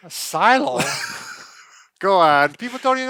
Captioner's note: laughs